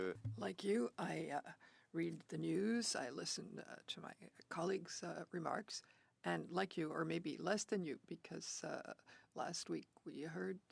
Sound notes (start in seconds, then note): 2.7 speaking French